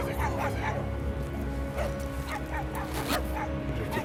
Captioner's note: dogs barking; dramatic music